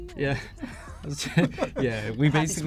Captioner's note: laughs